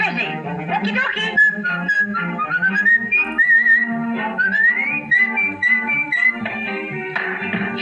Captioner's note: whistles